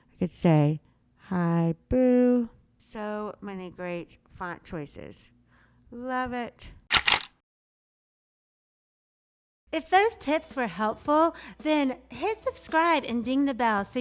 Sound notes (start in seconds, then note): 6.9 camera shuttering